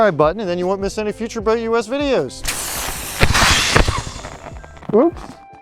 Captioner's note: sound of air inflating life jacket